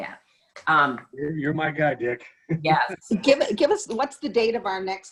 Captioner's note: laughing